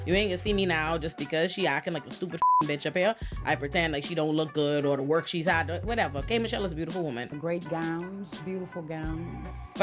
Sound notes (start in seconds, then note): 2.4 beep